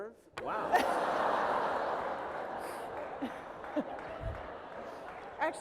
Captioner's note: laughter